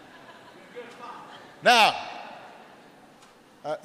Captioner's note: laughter